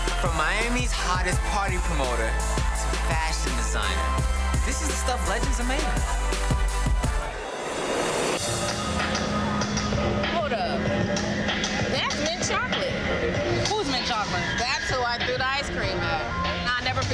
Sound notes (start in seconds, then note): 7.0 electronic swooches; 9.1 anxious drumbeat